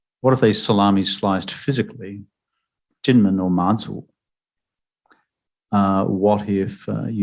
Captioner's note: speaking mandarin